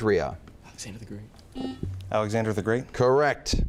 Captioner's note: whispers